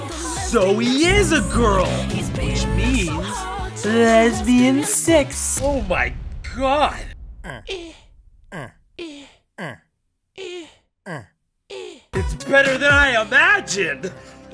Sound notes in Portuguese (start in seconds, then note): 7.5 Flappy Birds grunhido e gemido